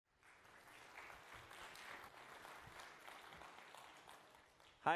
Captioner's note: applause